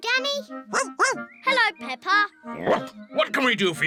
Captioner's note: snorts; barks; barks